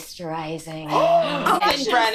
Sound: gasps

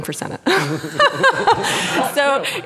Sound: laughing

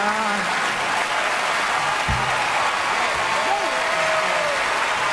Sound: audience applauds

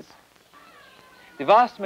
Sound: crowd noise

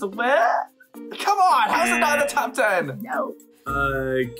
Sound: buzzer rings

